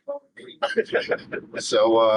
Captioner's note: laughing